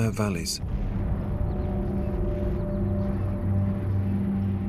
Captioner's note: distant explosions booming